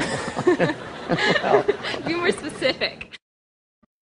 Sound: laughing

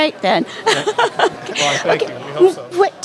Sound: laughter

